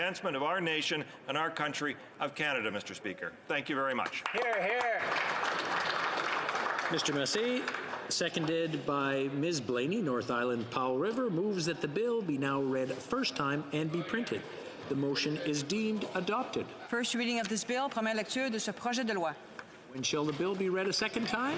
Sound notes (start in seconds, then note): 9.1 some Applause